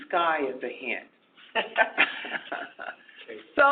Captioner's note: laughs